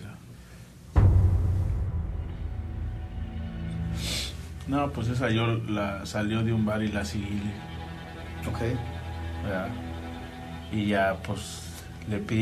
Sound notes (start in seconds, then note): 0.5 grim music playing; 3.4 sniffles